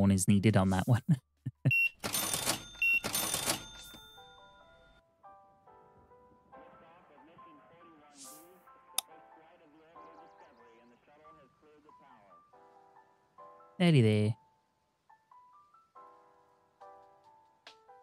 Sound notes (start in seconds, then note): 1.6 beeping